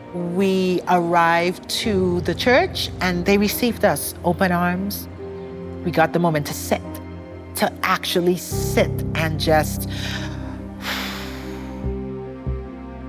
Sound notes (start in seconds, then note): 9.8 exhales